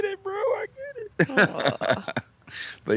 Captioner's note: laughs